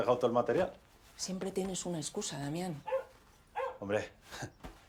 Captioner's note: dog barking